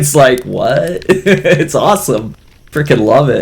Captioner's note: laughs